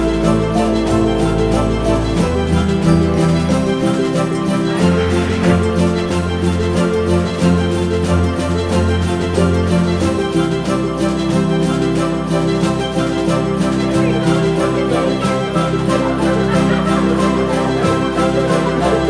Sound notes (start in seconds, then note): 5.2 metal tray sliding; 8.6 orchestral music continues; 16.0 students laughing